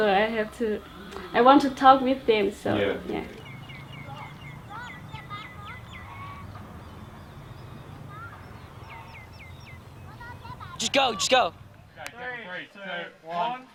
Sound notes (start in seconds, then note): 4.1 birds chirping; 9.5 kids chatter; 12.3 in Unison